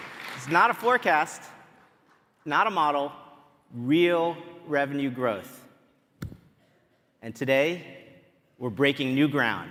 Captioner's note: cheering and applause